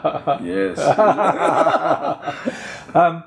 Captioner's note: laughs; both laugh